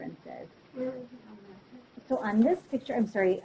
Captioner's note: student speaking faintly